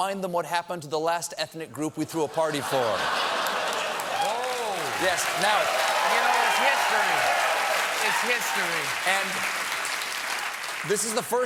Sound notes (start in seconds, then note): 4.2 applause; 4.2 laughter